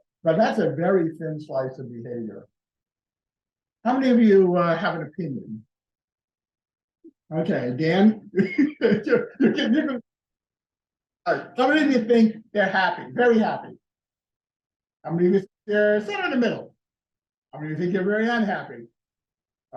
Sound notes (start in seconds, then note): 8.1 laughter